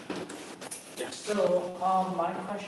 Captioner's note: thud